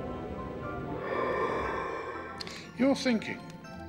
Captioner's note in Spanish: viento silbando